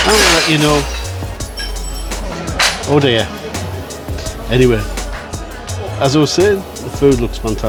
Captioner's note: loud crash - glasses and plates are dropped